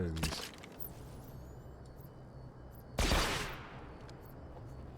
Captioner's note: gunshots